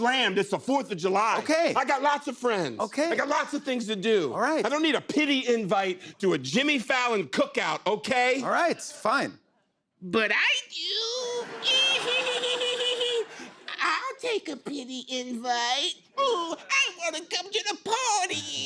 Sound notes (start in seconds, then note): 10.9 cackling; 11.3 laughter